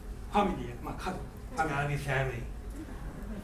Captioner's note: speaking in foreign language